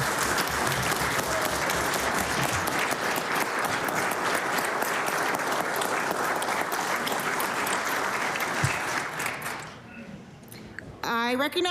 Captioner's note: applause